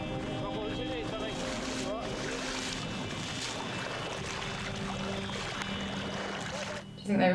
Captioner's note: dramatic music; water splashing